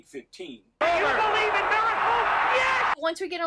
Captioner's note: hockey fans cheering